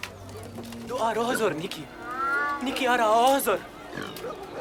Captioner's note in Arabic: الصوت المنطوق البدوي